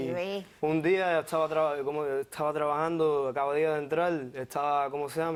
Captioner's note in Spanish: Tartamudea